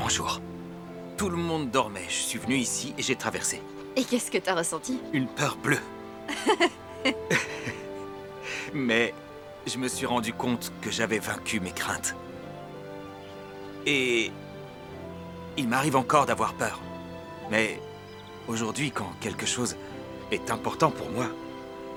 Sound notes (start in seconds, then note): 6.2 laughing